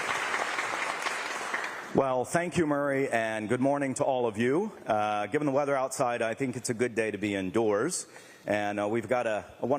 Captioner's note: applause